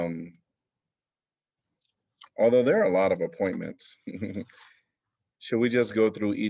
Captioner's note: laughter